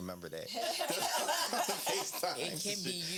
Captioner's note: laughing